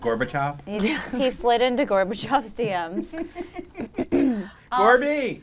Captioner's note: clears throat